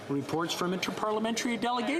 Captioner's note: speaking French